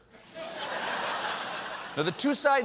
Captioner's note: laughter